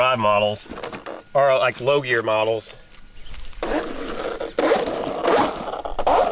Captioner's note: beeping